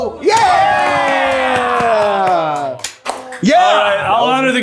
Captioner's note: everyone cheering